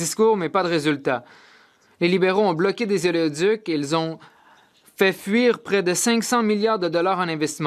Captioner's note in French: voix de l'interprète